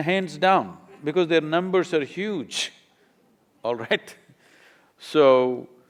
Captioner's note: laughs